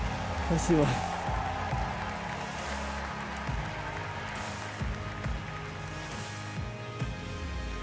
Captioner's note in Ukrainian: оплески